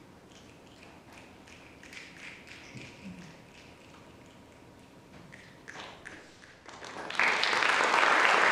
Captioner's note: snapping; applause